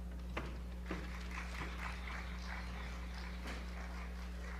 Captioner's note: crowd claps